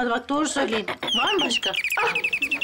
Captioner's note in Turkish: Kapı zili sesi